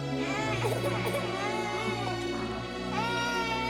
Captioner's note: baby crying